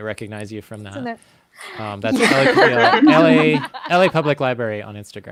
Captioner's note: both laughs